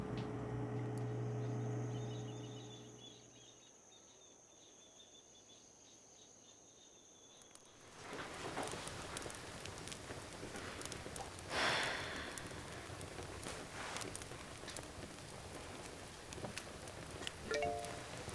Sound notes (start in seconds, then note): 7.5 fire crackling; 11.4 sighs; 17.5 phone chimes